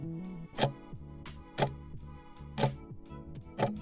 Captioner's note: timer ticking